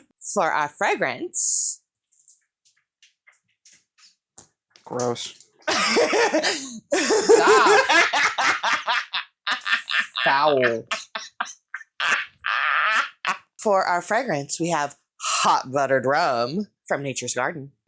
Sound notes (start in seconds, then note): 5.6 more cackling; 10.8 continued cackling